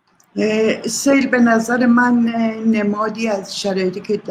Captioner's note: speaks in Persian